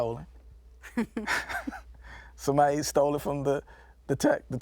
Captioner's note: laughing